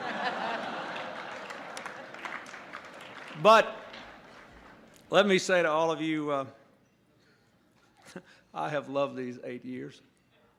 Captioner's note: laughter